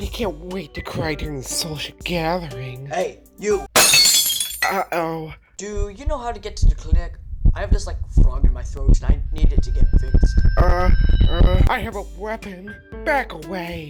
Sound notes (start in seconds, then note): 3.7 shatter; 8.0 heartbeat intensifies